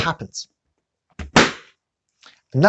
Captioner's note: loud pop